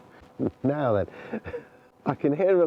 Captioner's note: laughs